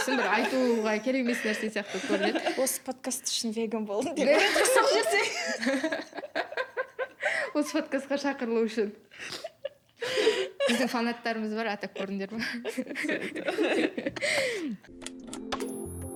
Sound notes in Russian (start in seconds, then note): 4.2 смех